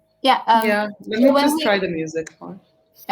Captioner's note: chatter